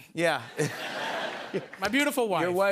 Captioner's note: laughter